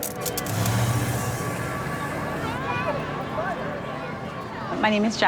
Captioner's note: car engine roaring; camera clicking